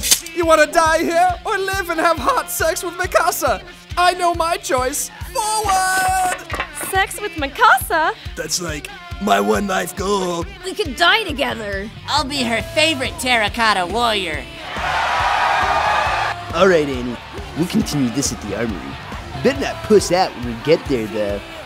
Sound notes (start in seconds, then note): 14.6 screams in delight for Mikasa